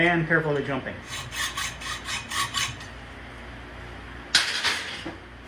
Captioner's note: sawing